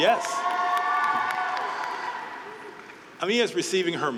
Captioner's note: group cheering